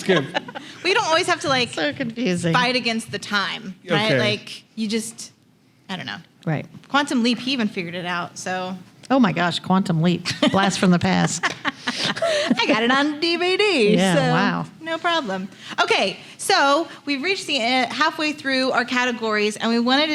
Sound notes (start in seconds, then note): 1.7 laughing